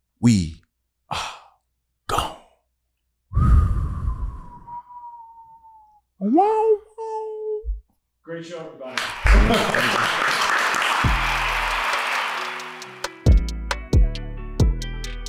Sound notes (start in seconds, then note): 3.4 whistle; 6.4 imitates harmonica; 8.9 everyone applauding